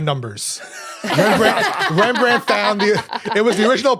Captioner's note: others laughing